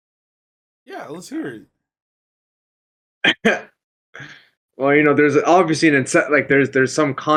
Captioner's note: laughs